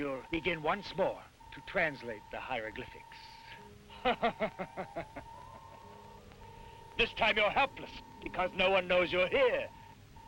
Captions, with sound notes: you'll begin once more to translate the hieroglyphics. (Krupp laughs) This time you're helpless because no one knows you're here,